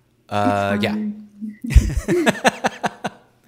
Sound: laughs

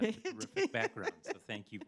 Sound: laughs

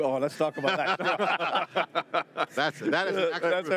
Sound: laughs

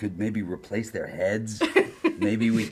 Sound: laughter

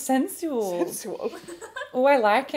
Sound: staff laughing

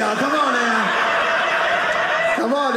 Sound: audience laughing

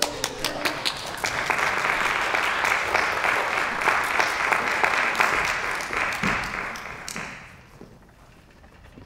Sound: applause

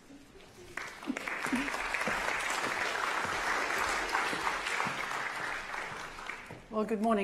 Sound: applause

